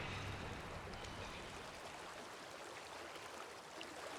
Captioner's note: water trickling